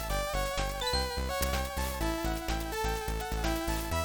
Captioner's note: step step